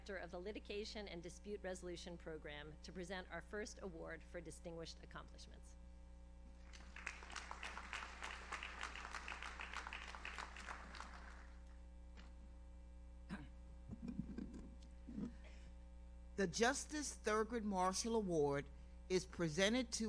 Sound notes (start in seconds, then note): 6.6 audience applauds; 13.8 microphone rumbles; 15.2 audience member coughs